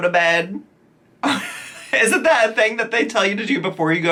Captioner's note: giggles